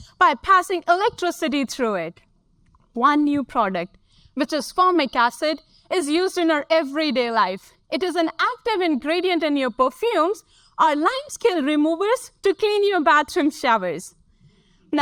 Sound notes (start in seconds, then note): none